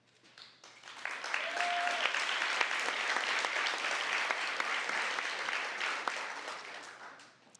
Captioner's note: applause